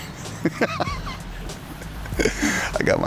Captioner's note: laughs